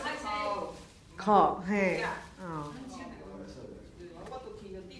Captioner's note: speaking foreign language